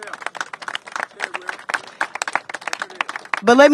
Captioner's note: applause